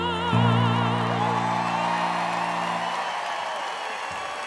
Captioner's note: audience cheering